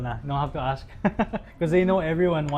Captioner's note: laughs